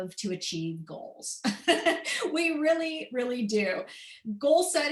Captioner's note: laughter